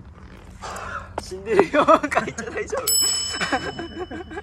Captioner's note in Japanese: 笑い